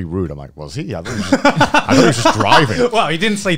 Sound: laughing

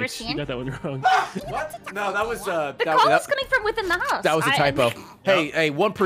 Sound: screams

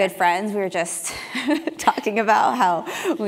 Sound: laugh

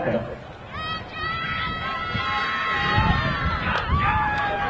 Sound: audience cheering

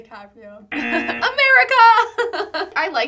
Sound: buzzer rings; laughs

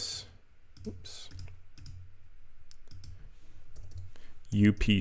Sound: mouse clicking

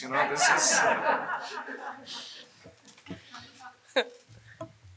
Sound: audience laughing

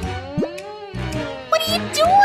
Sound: making happy sounds

